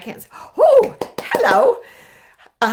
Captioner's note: clapping